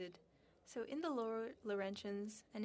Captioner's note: speaking French